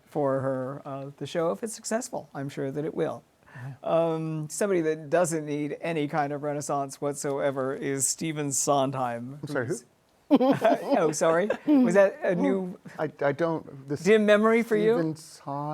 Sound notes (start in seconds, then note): 10.3 laughter